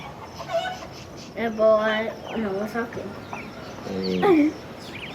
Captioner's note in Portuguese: Criança falando